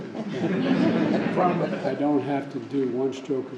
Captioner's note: laughter